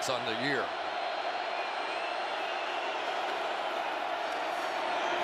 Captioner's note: cheering